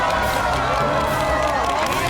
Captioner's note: cheering